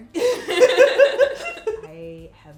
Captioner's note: laughing